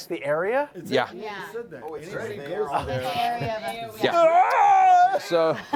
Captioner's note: screams